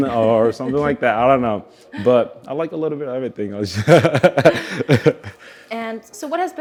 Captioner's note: both laugh